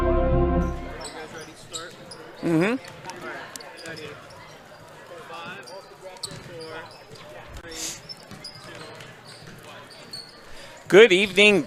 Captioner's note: ambient gym sounds